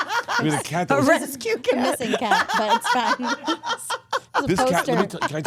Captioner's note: laughs